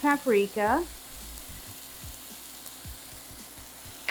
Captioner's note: chicken sizzling